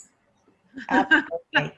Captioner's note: laughing